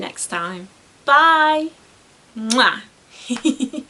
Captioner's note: giggles